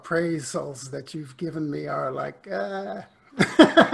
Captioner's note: laughs